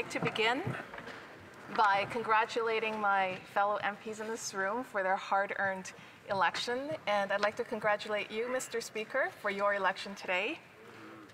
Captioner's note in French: voix de l'interprète